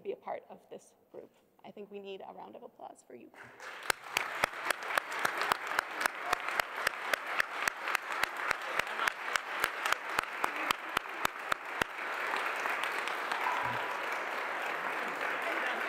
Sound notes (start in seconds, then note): 5.0 applause